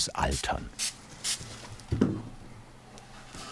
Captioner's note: sprays